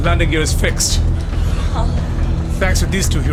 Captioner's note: sighs of relief